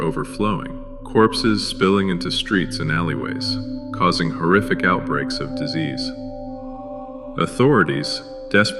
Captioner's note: echoing